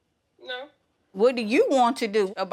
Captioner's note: phone Voice